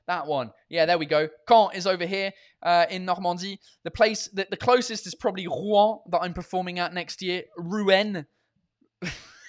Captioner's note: laughs